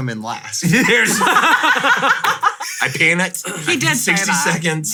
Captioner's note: all loudly laughing